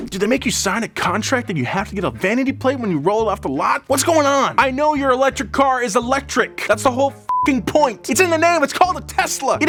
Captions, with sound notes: Do they make you sign a contract that you have to get a vanity plate when you roll it off the lot. What's going on? I know your electric car is electric. That's the whole (beep) point. It's in the name, it's called a Tesla.